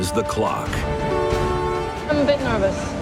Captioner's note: train horn blares